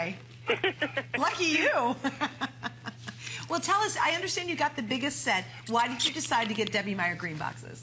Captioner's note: laughter